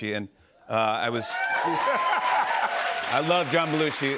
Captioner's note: cheers and applause